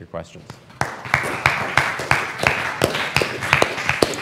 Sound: applause

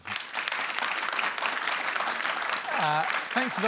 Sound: applause

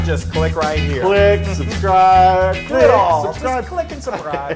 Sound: laugh

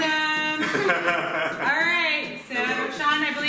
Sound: laughter

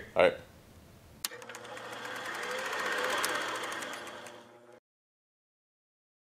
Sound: film machine whirring

